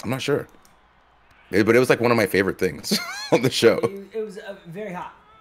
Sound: laugh

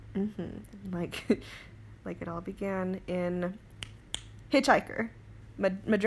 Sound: snap, snap

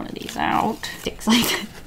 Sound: laughs

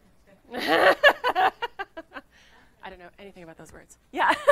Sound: laughing

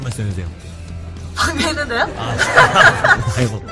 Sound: laughing

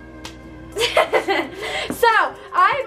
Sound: laughs

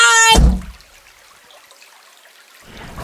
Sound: peaceful nature sounds

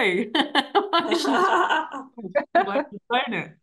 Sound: everybody laughing

